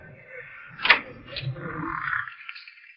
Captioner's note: door opens